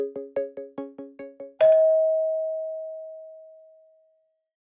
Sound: bell dings

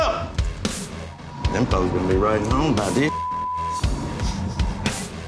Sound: beeping

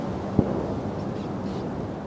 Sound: distant gunshot

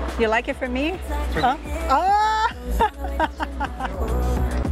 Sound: laughs

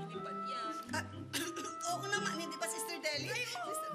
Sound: coughs

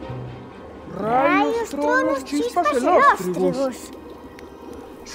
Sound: several distorted voices in unison

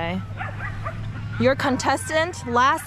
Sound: dogs barking

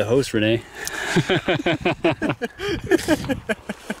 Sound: both laugh

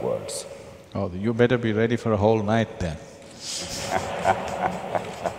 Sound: laughter

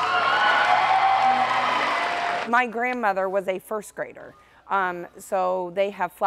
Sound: applause

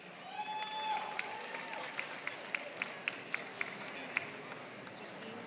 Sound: applause

